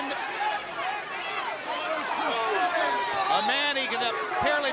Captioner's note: crowd cheering